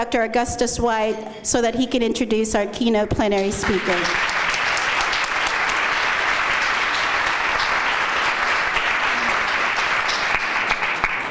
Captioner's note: applause